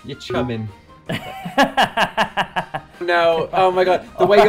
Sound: laughing

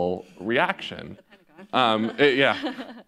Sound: laughs

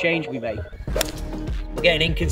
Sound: golf club whacks

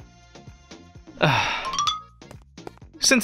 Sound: sighs

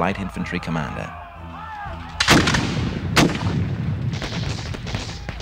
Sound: loud explosions and gunfire

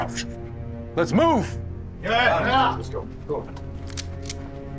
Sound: men exclaim

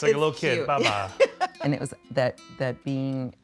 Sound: laughing

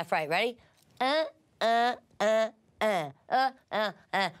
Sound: grunts repeatedly

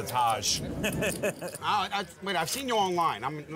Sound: laughing

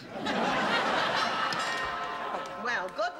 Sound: doorbell rings

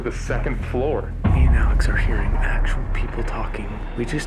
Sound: whispering

